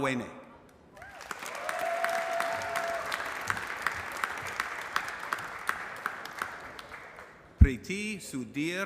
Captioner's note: applause